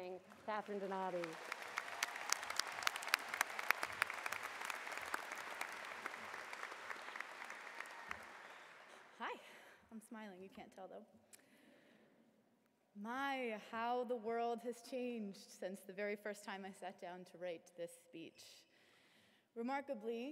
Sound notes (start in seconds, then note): 3.5 applause